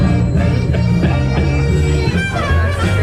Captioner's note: dad laughing